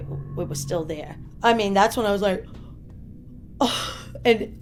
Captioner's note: deep exhaling